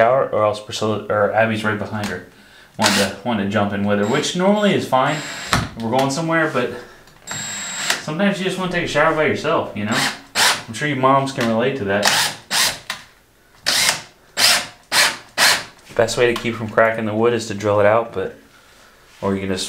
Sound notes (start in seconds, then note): 13.6 drill whirring